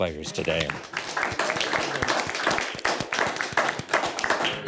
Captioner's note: audience and teams applaud